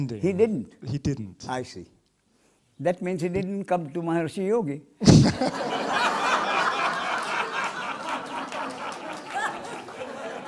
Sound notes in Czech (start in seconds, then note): 9.0 smích